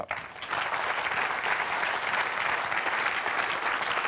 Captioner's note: applause